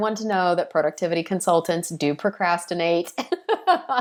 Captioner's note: laughing